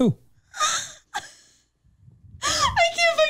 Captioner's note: chuckles